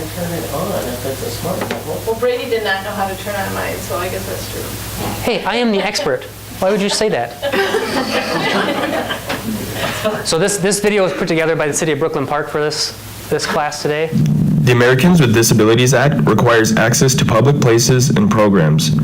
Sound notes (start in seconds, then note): 8.6 people laughing